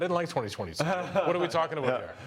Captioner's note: laughs